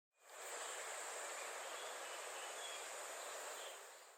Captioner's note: birds chirping